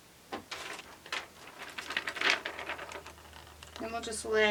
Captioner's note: sheet rustles